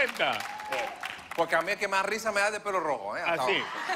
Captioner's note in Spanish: risas; aplausos